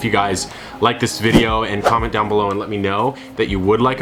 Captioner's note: logo whooshing